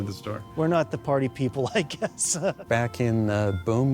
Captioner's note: laughs